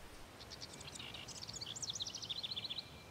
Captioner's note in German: Vogelgezwitscher